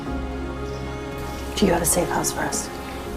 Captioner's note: voiceover